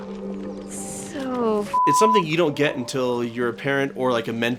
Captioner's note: beeping